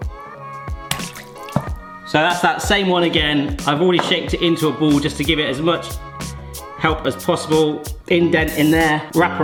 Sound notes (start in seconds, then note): 0.8 mozzarella plops